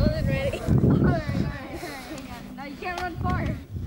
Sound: kids chattering

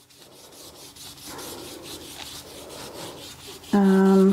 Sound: brush scrapes

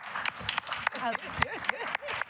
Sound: applause

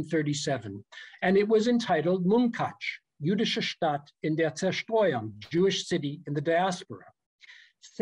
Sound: german

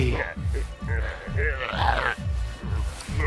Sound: growls

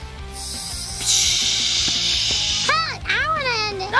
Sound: spraying sounds

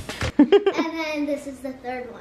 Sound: upbeat drumbeats; laughing

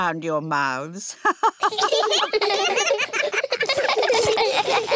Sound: all laughing; laughs

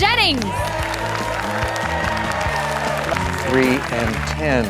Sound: applause

